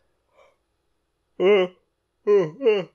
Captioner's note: extended yawning; yawn